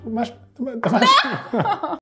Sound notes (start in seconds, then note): 0.8 laughing